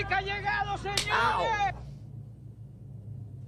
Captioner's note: face slap